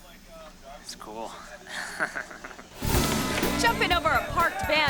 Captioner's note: chuckles